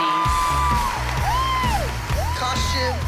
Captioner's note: applause